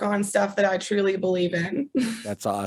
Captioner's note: chuckles